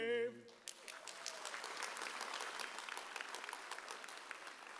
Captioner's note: audience applauds